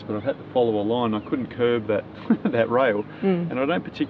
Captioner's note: laughs